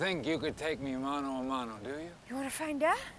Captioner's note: speaking foreign language